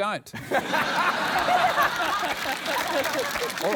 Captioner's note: laughter